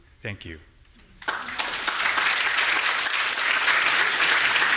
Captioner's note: audience applauding